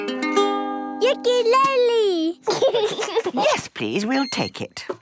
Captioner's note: gentle strumming; giggling